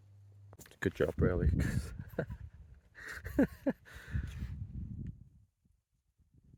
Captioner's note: laughing